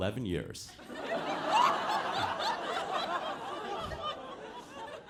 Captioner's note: audience laughing